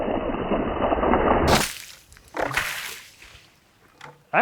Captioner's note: water splattering